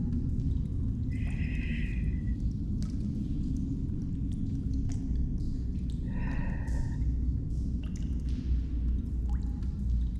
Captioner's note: breathing